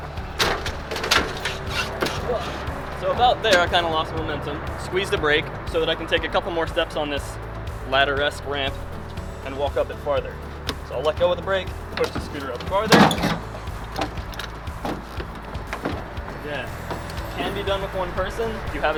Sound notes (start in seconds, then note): 1.6 squeaking